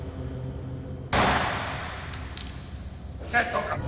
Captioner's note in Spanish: Disparo